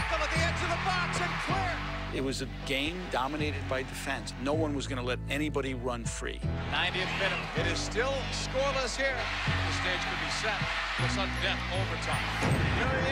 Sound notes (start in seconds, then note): 0.0 cheering; 0.0 tv announcer; 9.4 cheering; 9.4 tv announcer